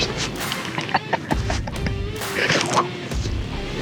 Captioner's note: laughing